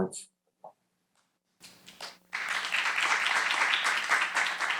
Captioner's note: applause